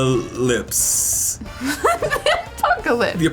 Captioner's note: Alison laughing